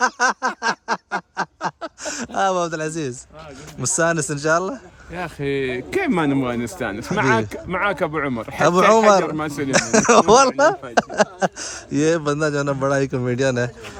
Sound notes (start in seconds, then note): 2.0 Arabic